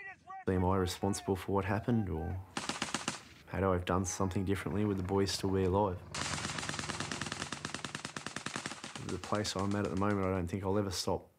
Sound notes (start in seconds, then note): 6.0 sound of battle